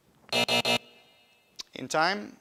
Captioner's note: buzzer buzzing